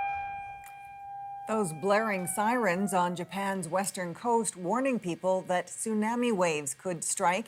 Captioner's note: sirens